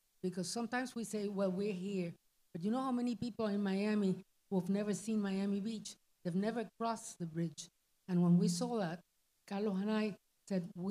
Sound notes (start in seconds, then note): none